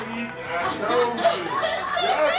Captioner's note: laughing